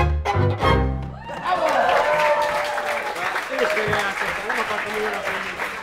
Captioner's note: cheers and applause